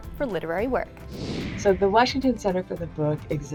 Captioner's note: screen whooshing